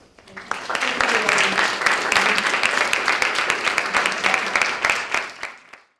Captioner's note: applause